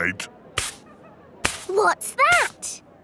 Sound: brushing

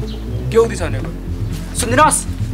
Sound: aggressively

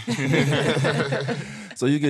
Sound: all laughing

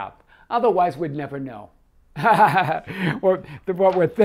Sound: laughs

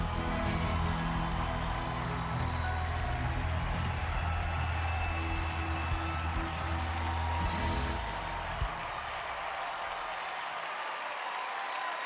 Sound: cheering, applause

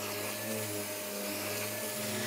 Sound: machine noise

